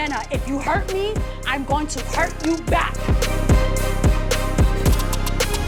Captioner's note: claps hands